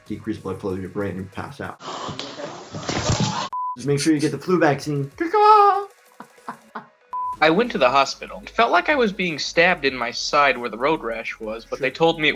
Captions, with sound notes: Decrease blood flow to your brain and you pass out. (Gasping) (Thud) - Just make sure you get the flu vaccine. (Bird noises) (Laughing) - I went to the hospital It felt like I was being stabbed in my side where the road rash was but they told me